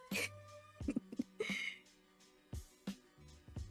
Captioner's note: chuckles